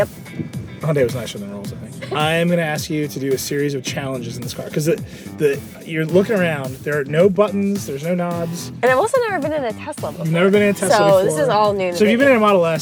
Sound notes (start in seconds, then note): 1.9 laughter